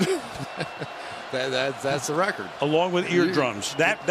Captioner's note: laughs